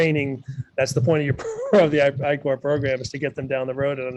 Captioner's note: chuckles